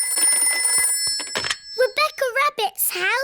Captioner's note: phone rings